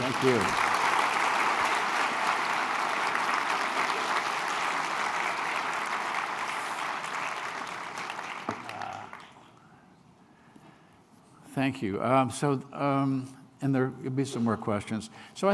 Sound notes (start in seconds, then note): 1.7 applause